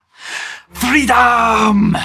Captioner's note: inhales deeply